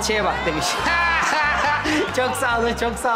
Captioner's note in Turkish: Gülme sesleri